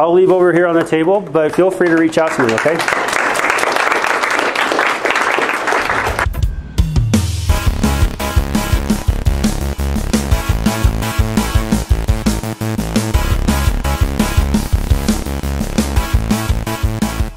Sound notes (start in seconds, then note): 3.1 audience applauding; 6.7 uptempo rock music